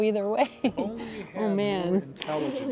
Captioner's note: laughs